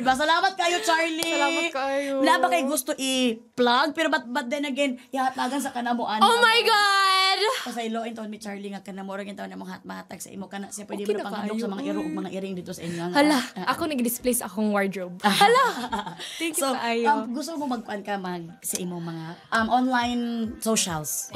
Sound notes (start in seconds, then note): 15.4 chuckles